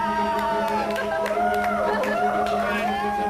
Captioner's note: cheering